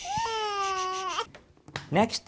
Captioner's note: baby crying